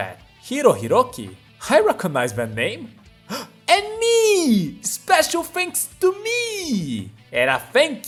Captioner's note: gasp